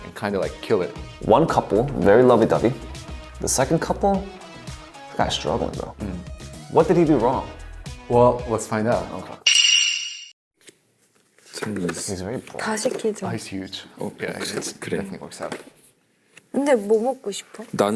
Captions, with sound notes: and kinda like, kill it. - One couple, very lovey-dovey. The second couple? He's kinda struggling, bro. What did he do wrong? - Well, let's find out. (tambourine jingling) (speaking Korean) He's very broad. - Oh, he's huge. Yeah, he definitely works out.